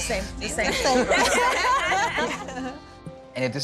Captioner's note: laughter